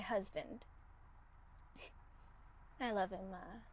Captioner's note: chuckles